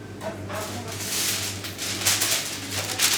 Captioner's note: paste paper rustles